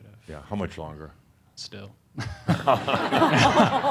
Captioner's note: laughter